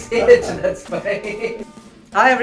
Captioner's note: laughs